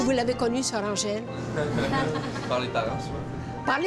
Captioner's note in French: rires